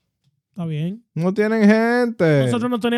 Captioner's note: speaking In Foreign Language